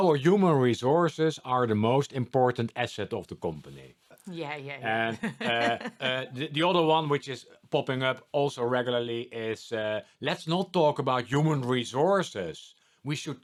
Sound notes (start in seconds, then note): 4.8 laughing